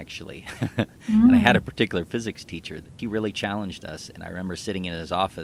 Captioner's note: laughs